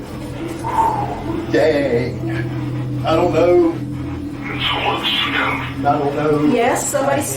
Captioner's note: device murmurs